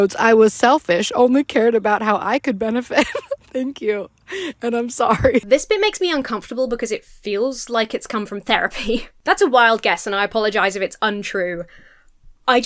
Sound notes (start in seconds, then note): 2.8 laughs; 4.8 continues laughing